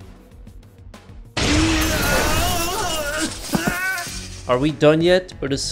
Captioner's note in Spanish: grita